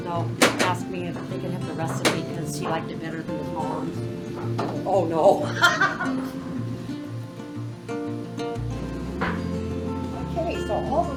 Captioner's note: laughing